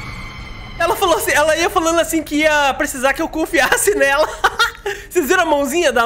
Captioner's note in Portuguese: risos